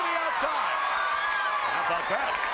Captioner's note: crowd cheers